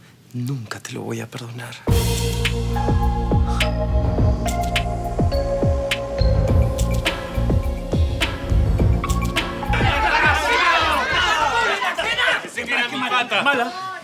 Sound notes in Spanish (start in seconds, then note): 10.0 Gritos